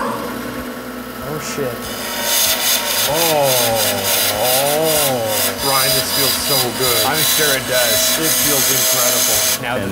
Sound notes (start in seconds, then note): 2.5 saw whirring